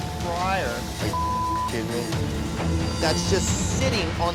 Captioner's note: beep